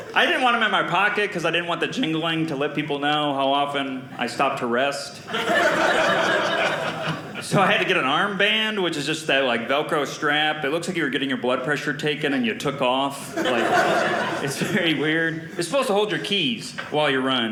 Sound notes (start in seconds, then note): 5.3 audience laughing